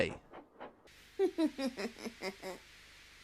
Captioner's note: Rainbow Dash snickering